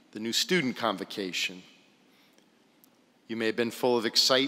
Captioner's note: none